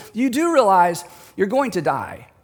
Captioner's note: none